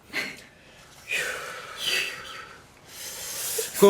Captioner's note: sigh